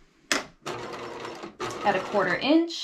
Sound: sewing machine clunking

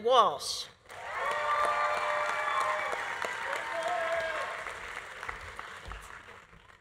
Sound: audience applauding; audience cheering

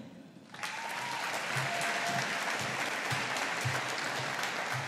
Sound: audience applauding

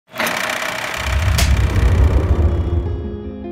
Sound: film rolling; melancholy music

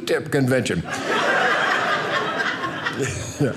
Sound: audience laughing

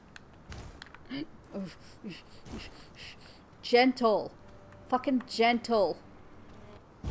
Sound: soft, rapid breathing

